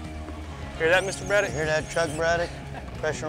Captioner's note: laughs